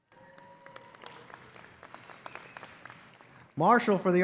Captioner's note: audience applauding